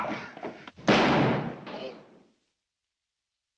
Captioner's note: gunshot